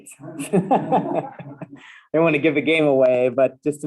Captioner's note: laughs